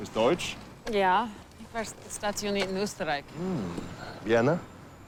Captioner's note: Kurt speaking in foreign language; Remi speaking in foreign language